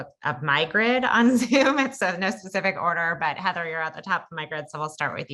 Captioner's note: laugh